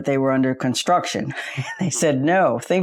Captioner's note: chuckles